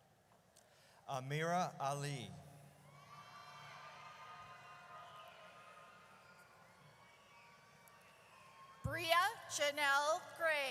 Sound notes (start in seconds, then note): 2.9 audience cheers